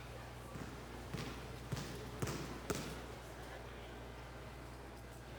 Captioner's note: ball bangs repeatedly